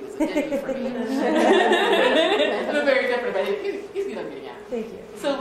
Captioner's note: laughter